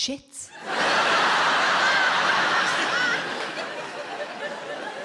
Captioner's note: audience laughs